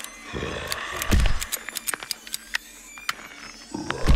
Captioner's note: gun clacking; mummy snarling